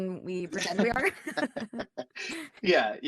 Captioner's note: laughter